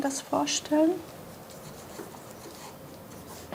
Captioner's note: pencil scratching